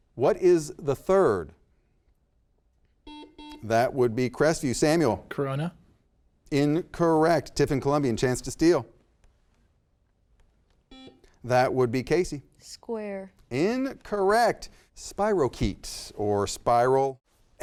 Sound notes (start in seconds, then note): 3.0 buzzer beeps; 10.9 buzzer beeps